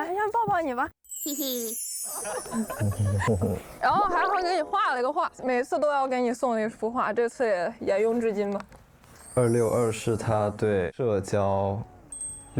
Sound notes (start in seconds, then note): 2.1 chuckles; 2.7 mhm-hm